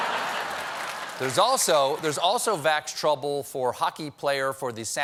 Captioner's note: laughter